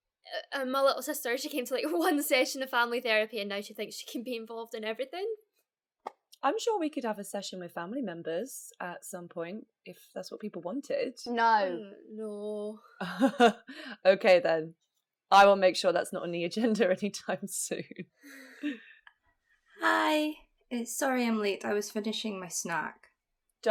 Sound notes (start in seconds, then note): 13.6 laughing; 18.2 Relieved sigh from Gemma